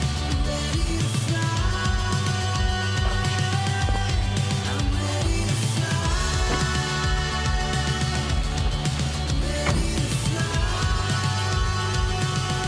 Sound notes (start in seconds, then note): 0.1 upbeat music; 6.2 door slams